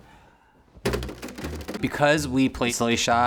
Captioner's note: fingers thudding on register